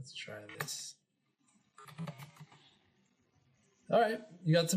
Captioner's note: keyboard clicking